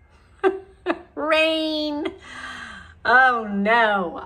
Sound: chuckles

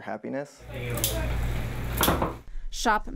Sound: clicking and thudding

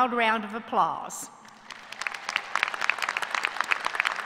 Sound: applause

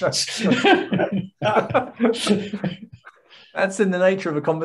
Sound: laughing

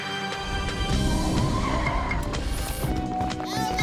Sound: tires screeching

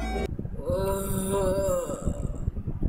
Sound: moan

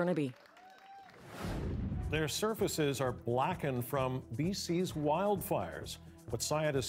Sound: cheering and Applause

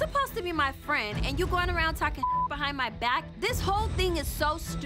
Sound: beep

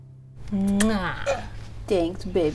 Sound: kissing

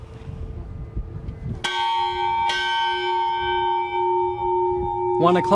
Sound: bell rings twice

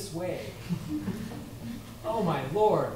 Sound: laughter

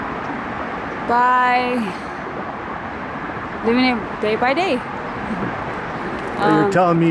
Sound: chuckling

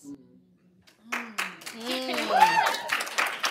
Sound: applause

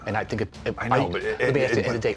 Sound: stammers

